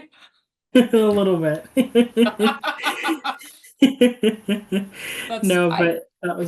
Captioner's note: laughing